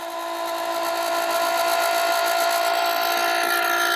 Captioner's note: pump roaring